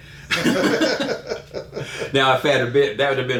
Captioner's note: laughing